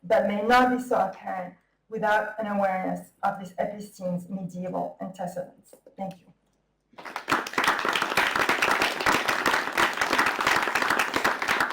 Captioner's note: clapping